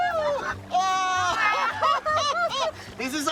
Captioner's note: laughter